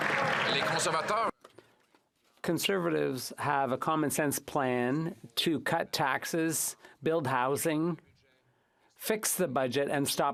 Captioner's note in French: applaudissements